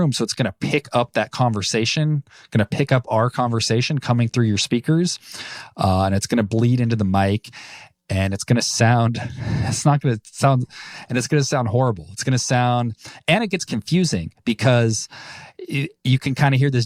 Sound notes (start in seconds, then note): 9.2 laughs